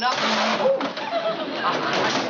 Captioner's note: chair scrapes